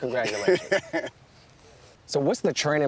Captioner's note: laughs